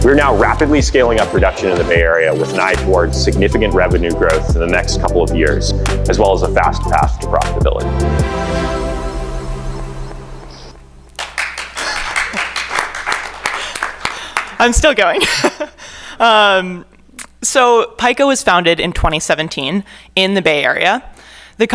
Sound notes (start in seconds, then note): 11.1 attendees applaud; 16.6 laughs